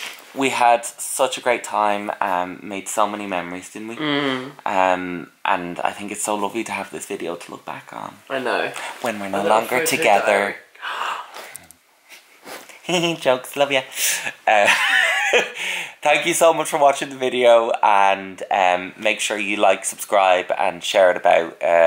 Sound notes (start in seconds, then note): 11.4 gasp; 14.6 laughs